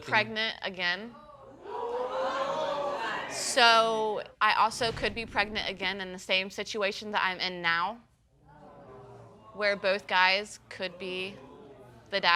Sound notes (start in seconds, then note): 1.5 audience gasps